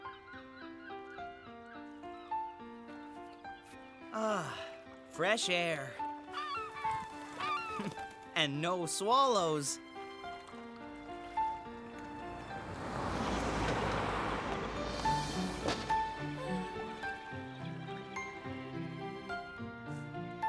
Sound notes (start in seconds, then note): 6.3 seagull Caws; 12.5 engines Purring